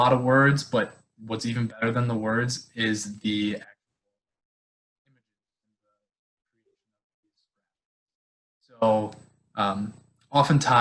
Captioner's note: sound cut off